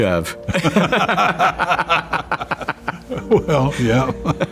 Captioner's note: both laugh